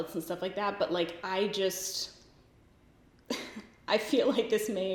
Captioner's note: giggles